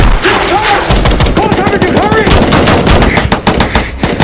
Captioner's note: gunfire